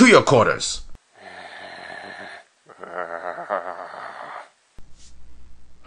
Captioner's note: audible Grrring